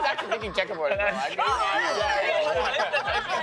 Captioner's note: all shouting at once